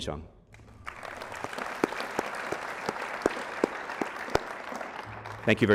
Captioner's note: applause